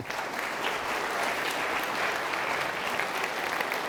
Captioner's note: audience claps